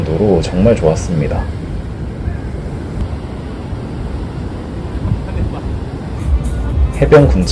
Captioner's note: slightly majestic sea with strong waves